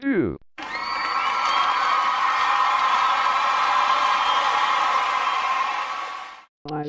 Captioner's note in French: vives acclamations et applaudissements